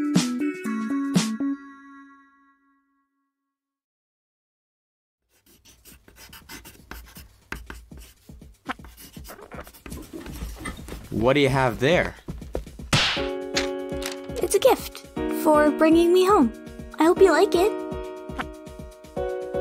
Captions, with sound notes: What do you have there? [slap!] It’s a gift! For bringing me home! I hope you like it!